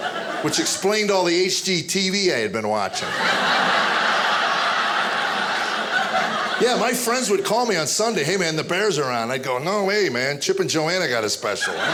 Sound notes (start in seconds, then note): 2.8 audience laughing; 11.4 audience laughing